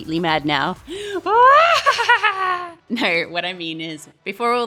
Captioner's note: crazed laughter